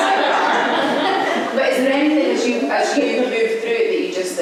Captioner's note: laughter